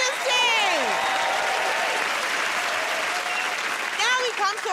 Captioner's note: cheers and applause